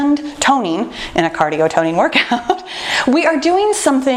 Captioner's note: laughs